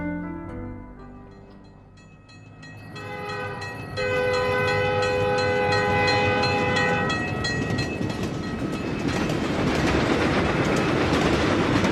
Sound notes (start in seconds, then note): 2.9 train horn